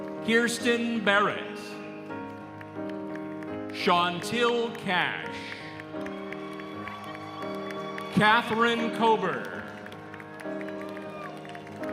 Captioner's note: applause